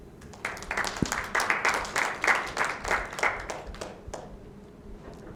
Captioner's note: congregation applauding